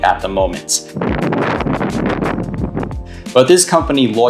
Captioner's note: wind gusting